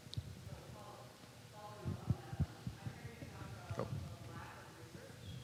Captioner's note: audience member murmuring